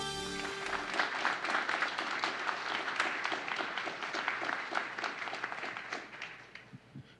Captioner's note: applause